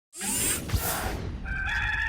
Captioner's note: machine whirring; rooster crowing